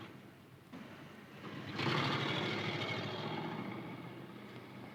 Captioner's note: car engine roaring